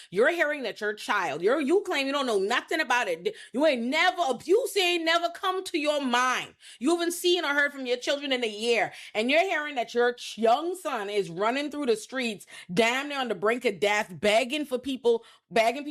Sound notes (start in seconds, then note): none